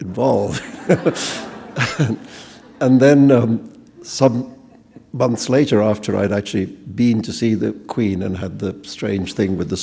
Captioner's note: chuckle